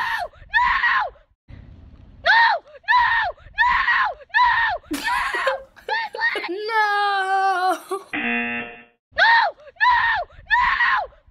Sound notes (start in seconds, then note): 4.9 giggling; 8.1 buzzer